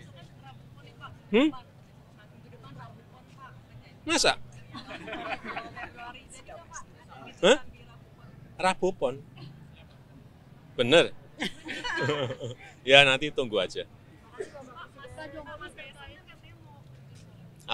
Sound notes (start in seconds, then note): 4.6 laughing; 11.4 laughing